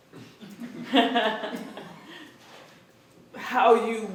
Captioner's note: laughter